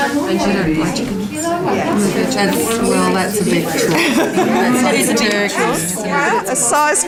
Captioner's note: participant chatter